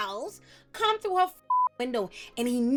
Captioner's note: beep